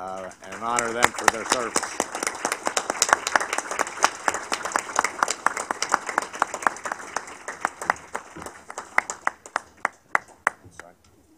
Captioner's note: applause